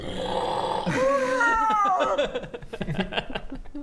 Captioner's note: roooaaaaaaaaar